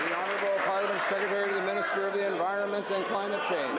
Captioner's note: some Applause